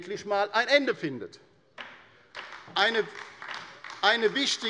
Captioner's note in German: Beifall bei der LINKEN